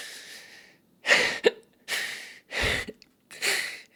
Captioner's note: sobbing